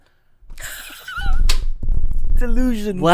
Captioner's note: laughs